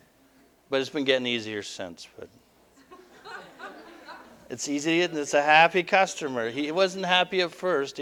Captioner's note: audience: Laughter